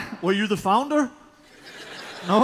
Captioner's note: chuckles; laughter